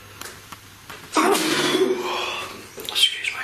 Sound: sneezes

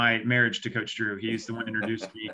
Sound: laughs

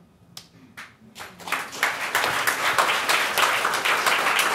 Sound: audience clapping

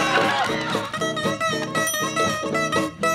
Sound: screaming; ding

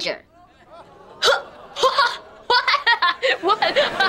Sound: laughing nervously

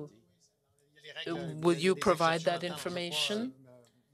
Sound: speaking French

